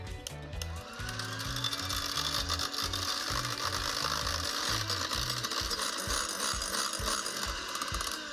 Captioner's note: beaters tapping glass